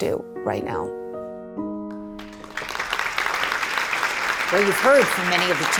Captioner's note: applause